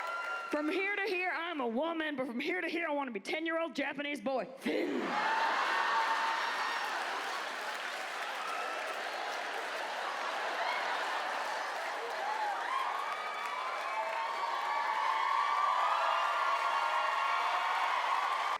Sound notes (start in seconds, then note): 5.8 audience cheers